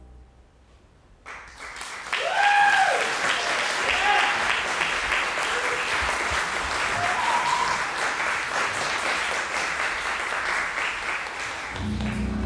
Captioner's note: applause